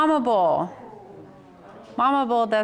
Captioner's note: audience sighs